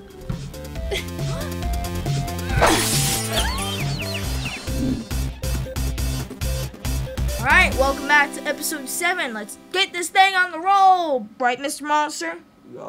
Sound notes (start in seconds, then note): 0.2 upbeat techno music; 1.0 gasping; 2.6 glass breaking; 3.0 birds chirping; 4.7 swoosh